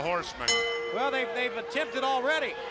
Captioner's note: bell ringing